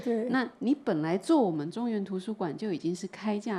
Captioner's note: Mandarin